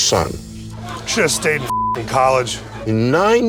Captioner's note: beep